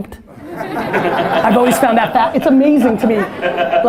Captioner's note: laughing